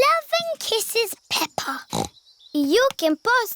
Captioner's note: snorts